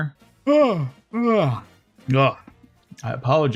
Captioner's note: yawns